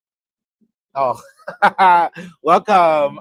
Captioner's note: laughs